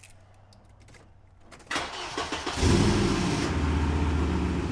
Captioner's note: engine cranking